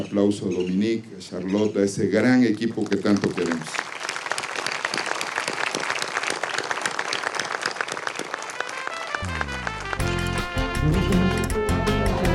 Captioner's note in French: applaudissements